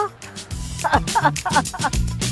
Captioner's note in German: Lacht